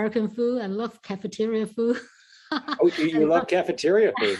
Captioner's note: laughs